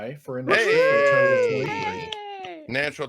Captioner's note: cheers drown the speaker